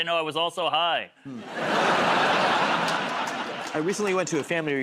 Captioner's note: laughter